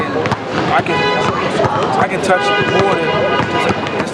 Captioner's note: car horn